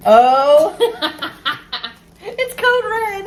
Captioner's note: laughs